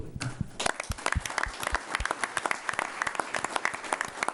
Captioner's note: applause